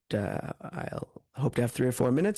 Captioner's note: speaking French